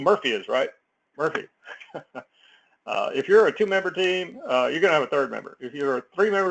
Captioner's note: laugh